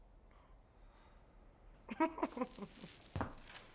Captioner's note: laughs